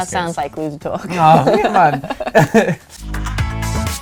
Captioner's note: laughter; upbeat music